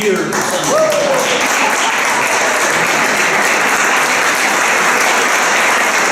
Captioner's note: applause